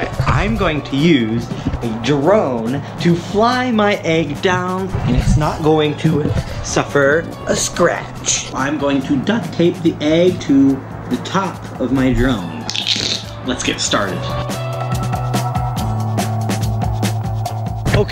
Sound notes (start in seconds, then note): 12.6 sound of duct tape